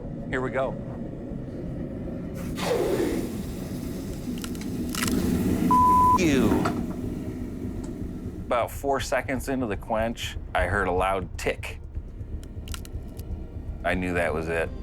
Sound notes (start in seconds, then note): 2.3 sizzling; 4.8 cracking